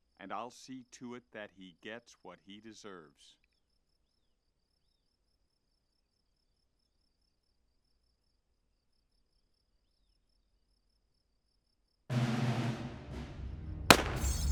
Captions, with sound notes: Put the gun down, Paul, and there'll be no more unnecessary violence. (crickets chirping) - Only the necessary kind, ain't that right, Marshal?